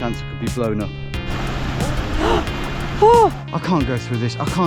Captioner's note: grunting